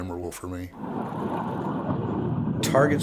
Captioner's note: jet engine